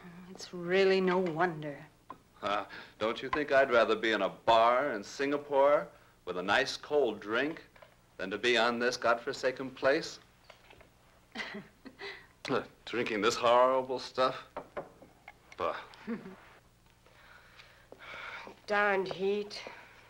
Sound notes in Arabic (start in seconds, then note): 15.5 غاري يتأوه